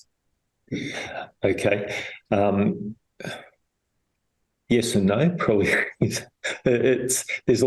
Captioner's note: laughs